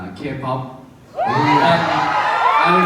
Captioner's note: crowd cheers